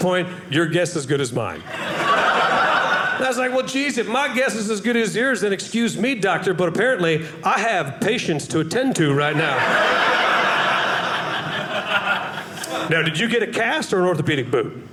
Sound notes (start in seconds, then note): 1.6 audience laughing; 9.2 audience laughing